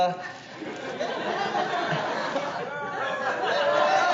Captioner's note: audience murmuring